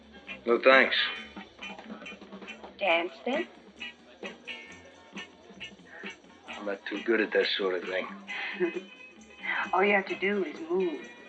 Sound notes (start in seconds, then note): 8.0 chuckles